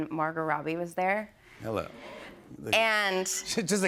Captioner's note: audience gasps